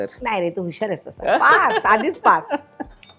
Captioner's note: laughs